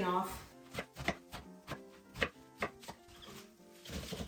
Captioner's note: knife chops